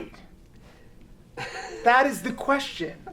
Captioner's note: laughs